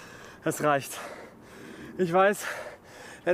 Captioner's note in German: Atemgeräusche